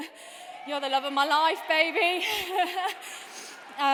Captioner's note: laughs